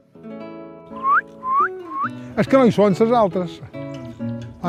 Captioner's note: whistles